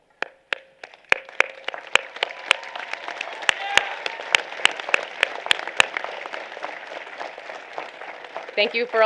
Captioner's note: applause